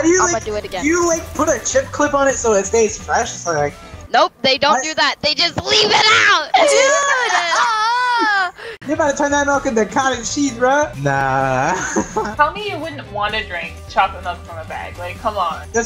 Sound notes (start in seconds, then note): 6.6 laughter